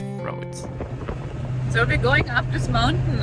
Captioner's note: wind howling